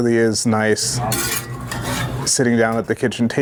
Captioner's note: spatula scraping